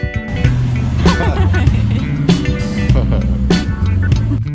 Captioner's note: giggles